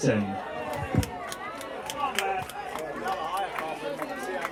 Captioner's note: applause